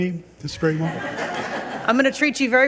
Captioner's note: people laugh